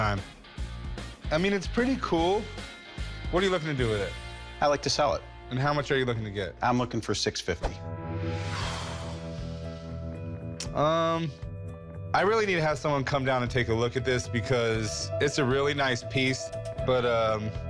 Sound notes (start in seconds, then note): 8.5 sighs